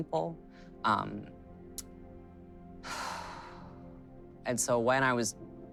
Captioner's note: sighing heavily